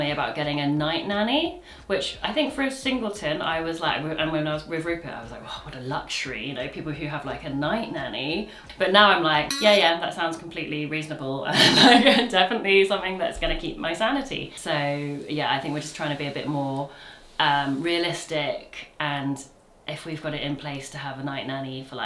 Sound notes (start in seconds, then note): 11.5 chuckles